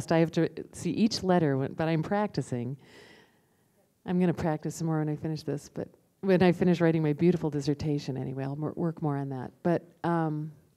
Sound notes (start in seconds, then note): none